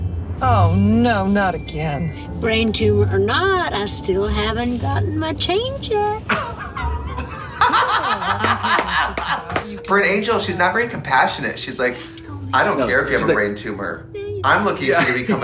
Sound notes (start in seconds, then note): 6.2 women laugh; 8.4 woman claps